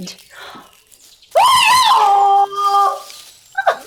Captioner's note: shrieks